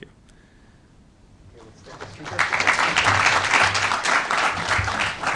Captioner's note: applause